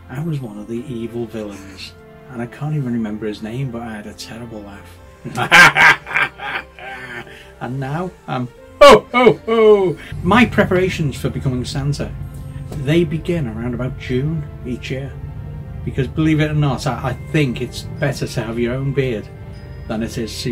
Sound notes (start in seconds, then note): 5.3 ahahahaha!